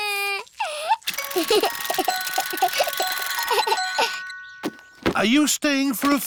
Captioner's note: alexander giggles